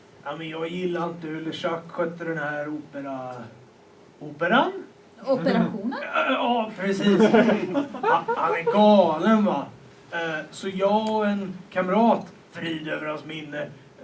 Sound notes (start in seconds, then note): 7.0 laughter